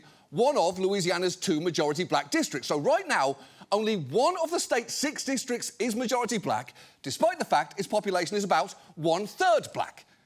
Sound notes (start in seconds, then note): none